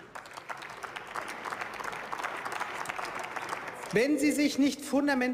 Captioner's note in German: Beifall